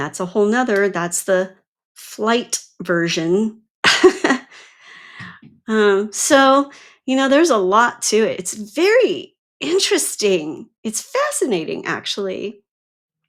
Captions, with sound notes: That's a whole nother. That's the flight version. (laughs) So, you know, there's a lot to it. It's very interesting. It's fascinating, actually.